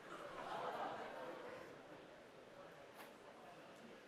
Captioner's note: laughter